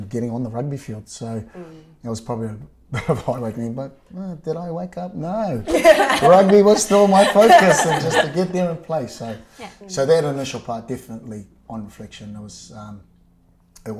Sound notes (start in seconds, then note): 2.5 chuckles; 5.6 laughter